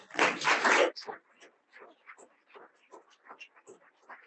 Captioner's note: audience applauding